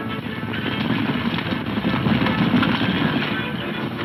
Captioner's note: hooves thundering